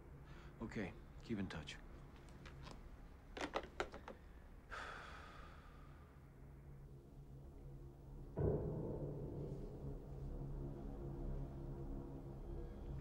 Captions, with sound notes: Okay. Keep in touch. [ Sighing ]